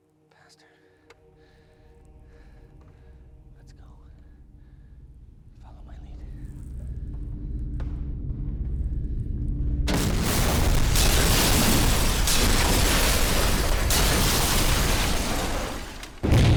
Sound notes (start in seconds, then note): 9.8 loud crash